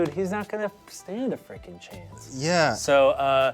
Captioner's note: none